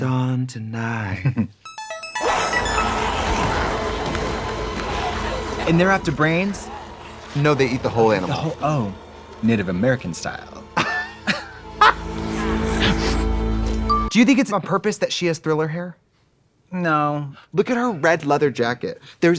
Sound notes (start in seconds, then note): 1.6 bright electronic music; 3.2 zombie growling; 10.9 Trixie laughs